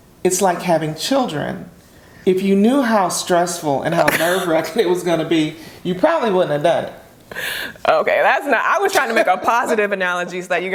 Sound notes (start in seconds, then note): 4.0 chuckles; 4.0 laughs; 10.1 laughs